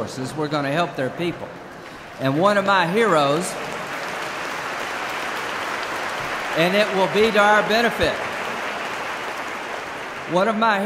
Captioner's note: applause